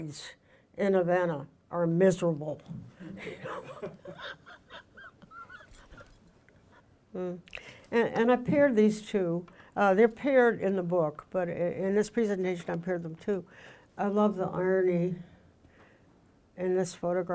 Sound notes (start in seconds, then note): 3.0 laughing; 3.1 audience chuckling